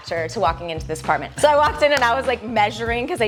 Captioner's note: hands clapping